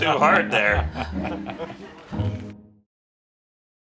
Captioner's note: laughs